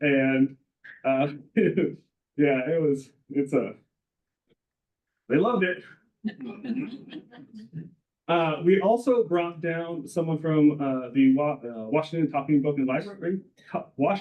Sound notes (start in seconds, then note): 6.4 all laughing